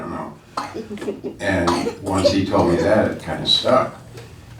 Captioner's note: laughing